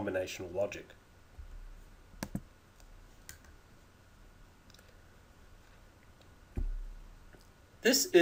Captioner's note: clicking sounds